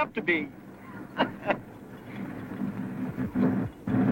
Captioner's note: chuckles